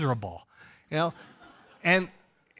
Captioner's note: audience laughs